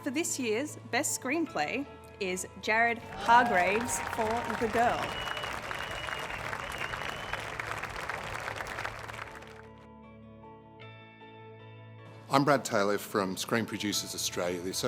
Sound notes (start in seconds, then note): 6.9 audience applauding